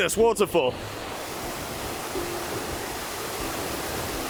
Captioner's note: gushing water